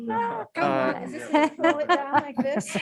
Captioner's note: laughs